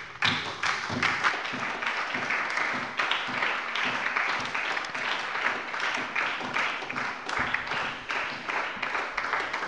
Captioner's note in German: Beifall bei der SPD